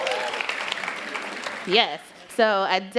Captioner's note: applause